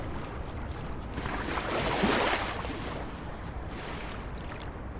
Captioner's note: waves splashing ashore